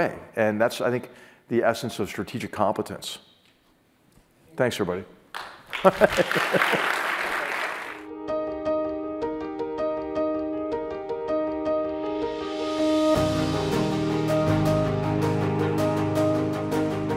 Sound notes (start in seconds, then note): 5.3 applause; 5.8 laugh